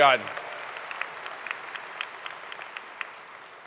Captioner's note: applause